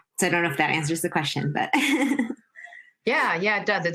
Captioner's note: laughs